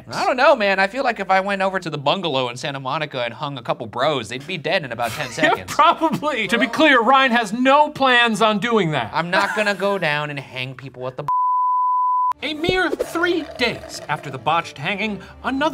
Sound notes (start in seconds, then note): 11.3 screen beeping